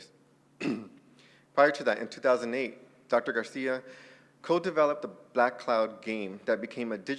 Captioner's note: cough